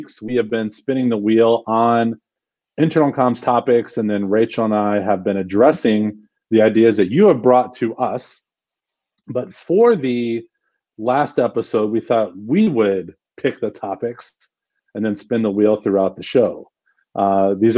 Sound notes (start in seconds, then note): none